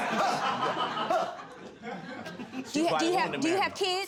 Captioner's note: audience laughing